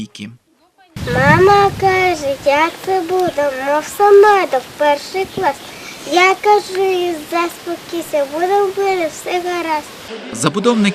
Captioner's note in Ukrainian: декламує віршик